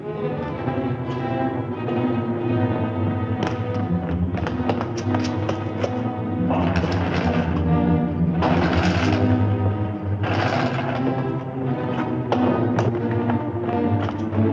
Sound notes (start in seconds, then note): 0.1 suspenseful music; 6.5 chain whirring